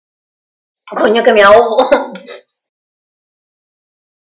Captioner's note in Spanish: ríe